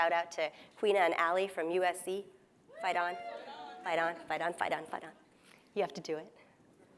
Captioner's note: cheers